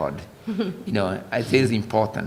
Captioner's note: laughter